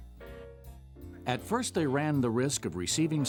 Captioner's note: voiceover